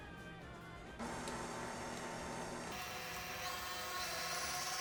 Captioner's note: mixer whirring